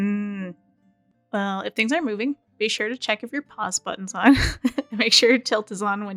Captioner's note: laughs